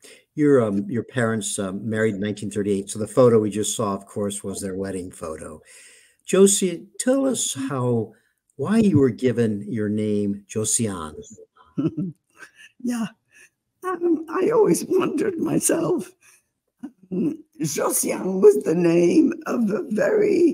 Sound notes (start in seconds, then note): 11.6 laughing